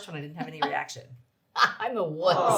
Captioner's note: laughs